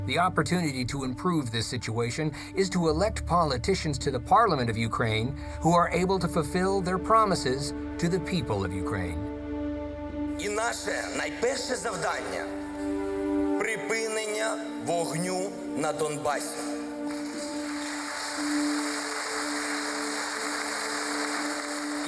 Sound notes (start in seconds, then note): 10.6 speaking foreign language; 17.0 audience applauding